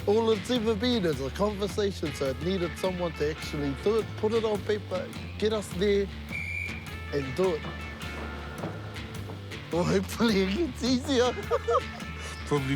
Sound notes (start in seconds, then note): 6.2 whistle blows